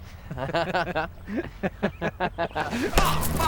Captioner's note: laughing